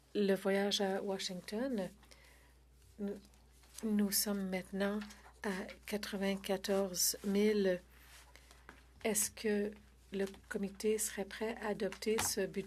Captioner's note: speaking French